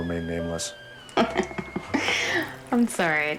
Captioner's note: laughs